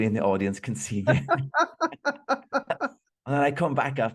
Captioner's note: laughing